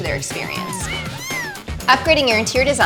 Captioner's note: kittens mewing